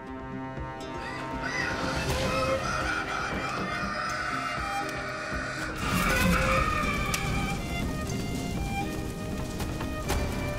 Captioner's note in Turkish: Bağırış sesleri